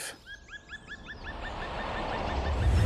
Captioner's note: animal call